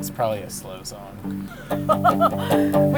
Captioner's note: laughs